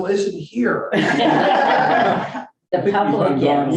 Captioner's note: board members laughing